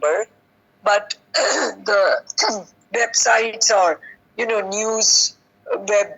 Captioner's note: clears throat